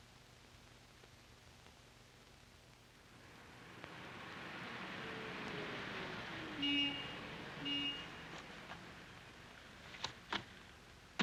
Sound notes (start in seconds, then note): 6.2 horn honks